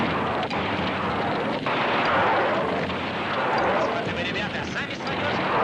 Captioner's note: explosions booming continues; soldier speaking in foreign language